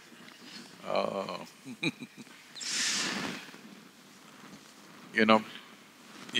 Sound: laughs

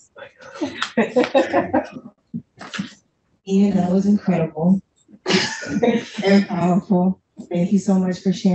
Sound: laughs

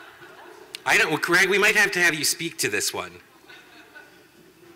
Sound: laughter

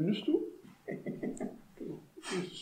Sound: dastardly laugh

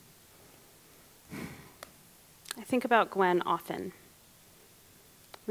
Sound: deep exhale

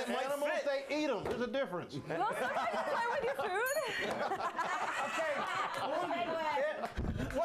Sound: bell rings

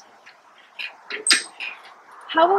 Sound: sound of bike kickstand

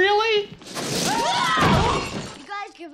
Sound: yelling

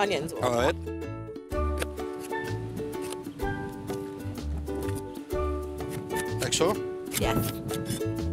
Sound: slicing

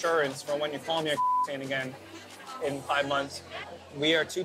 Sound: beep

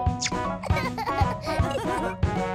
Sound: laughter

